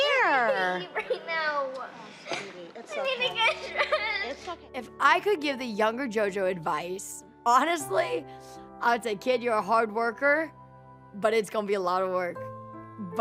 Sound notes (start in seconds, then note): 3.5 sobs